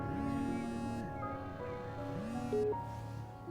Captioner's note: phone rings